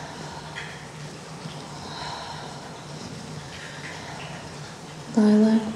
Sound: breathing sounds

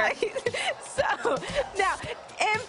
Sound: laughter

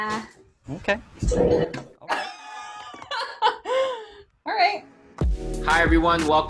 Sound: laughing

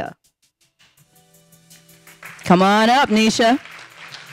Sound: audience applauding

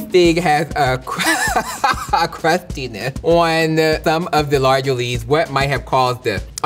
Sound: laughs

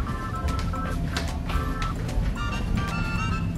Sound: footsteps

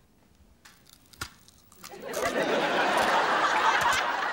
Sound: crunching

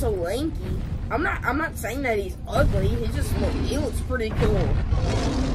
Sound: growling

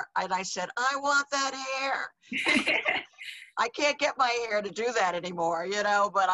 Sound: laughs

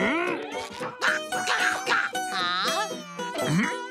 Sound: grunting

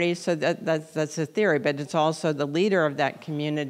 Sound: none

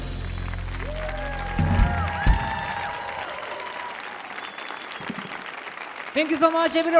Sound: audience cheers

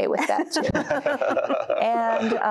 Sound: laughter

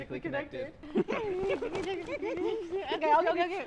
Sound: giddy noises

